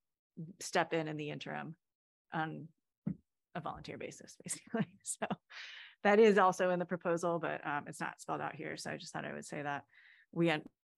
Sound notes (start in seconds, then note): 4.5 laughter